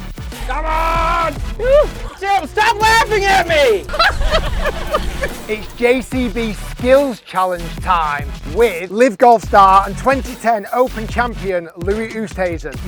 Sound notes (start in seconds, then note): 3.9 laughing